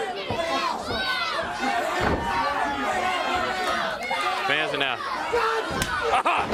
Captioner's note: crowd chatter